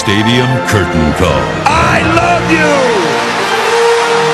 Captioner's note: cheers and applause